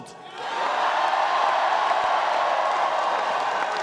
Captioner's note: cheering and applause